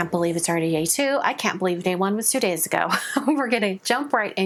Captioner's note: chuckles